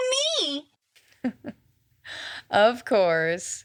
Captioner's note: chuckles